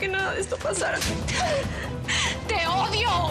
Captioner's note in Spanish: bofetada